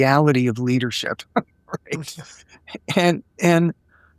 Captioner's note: laughing